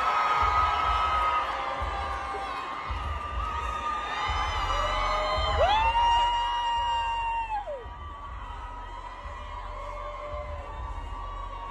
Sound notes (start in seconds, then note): 5.6 fan screaming